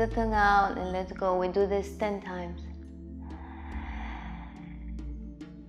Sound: inhales

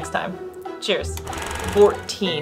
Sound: film rolling sound

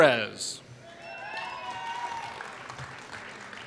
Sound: applause

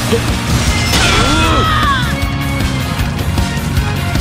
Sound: fatal scream

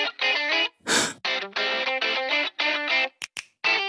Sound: exhales

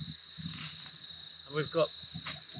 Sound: insects chirping

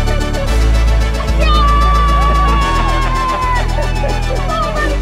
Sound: cheering

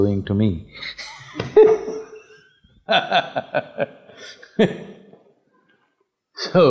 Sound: laughs

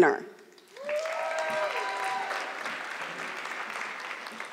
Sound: audience clapping

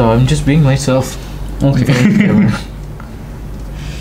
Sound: laughs

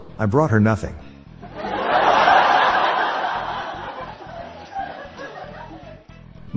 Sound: laughter

